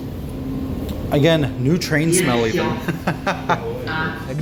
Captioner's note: laughter